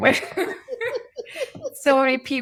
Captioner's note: laughing